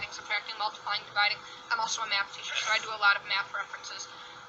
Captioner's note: someone sneezes in background